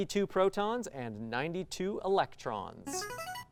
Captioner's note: ring-in sound